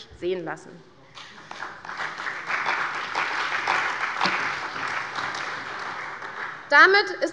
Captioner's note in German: Beifall bei der CDU und dem BÜNDNIS 90/DIE GRÜNEN